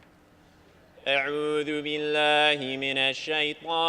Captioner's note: arabic speech